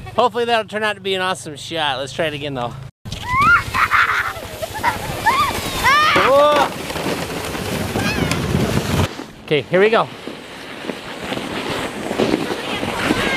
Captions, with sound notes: Hopefully that'll turn out to be an awesome shot, let's try it again though. (yelling) (laughing) Okay here we go.